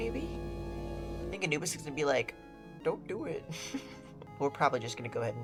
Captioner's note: giggles